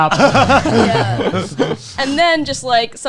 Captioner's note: laughing